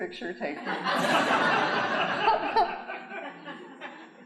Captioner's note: audience laughing